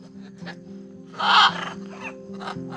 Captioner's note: parrot squawks